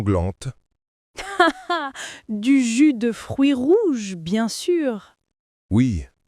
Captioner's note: laughing